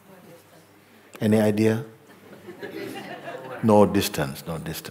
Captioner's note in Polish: śmiech